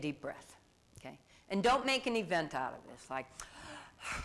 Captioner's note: exhales heavily